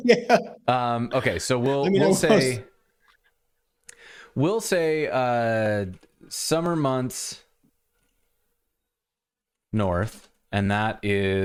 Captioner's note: laughter